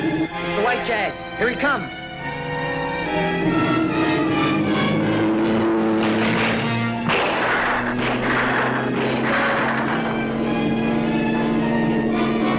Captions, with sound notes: - The white Jag, here he comes. (gate clattering) (gunfire popping)